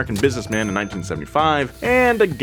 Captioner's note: cash register pings